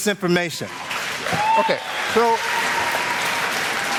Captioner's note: applause